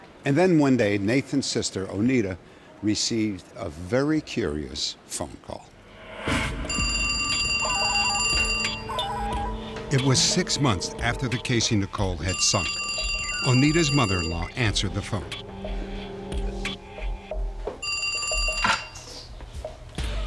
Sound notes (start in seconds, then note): 6.6 telephone ringing; 17.8 telephone ringing